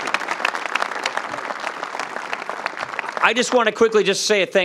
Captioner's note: applause